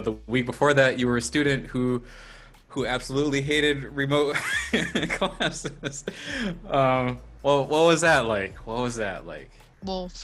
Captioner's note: laughs